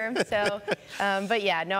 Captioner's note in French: laughter